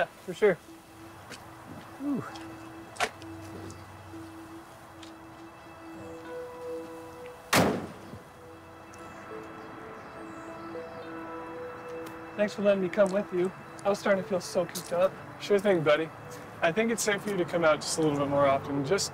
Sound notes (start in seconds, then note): 6.4 soft music; 9.3 birds chirping